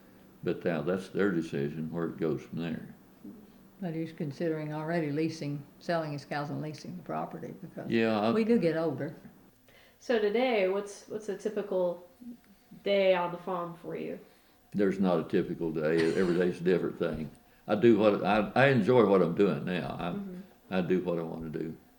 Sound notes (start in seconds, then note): 7.9 laughs